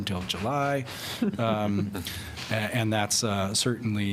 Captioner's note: laughter